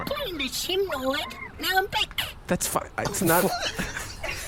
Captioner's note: laughs